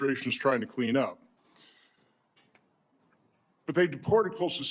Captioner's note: silence